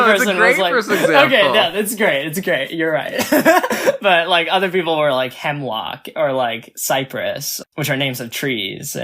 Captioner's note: laughs